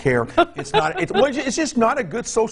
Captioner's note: laughing